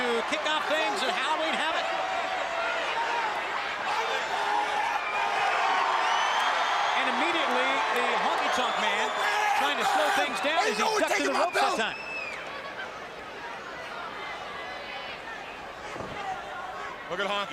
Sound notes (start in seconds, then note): 3.9 crowd chatter; 7.5 crowd cheering